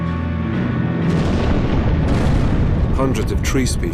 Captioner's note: explosions boom